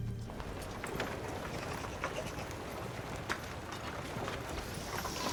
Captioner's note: townsfolk bustling